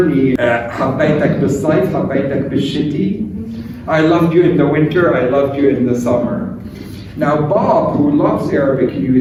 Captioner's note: speaking arabic